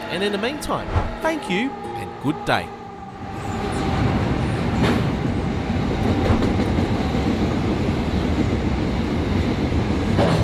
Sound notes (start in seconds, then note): 2.7 train rumbling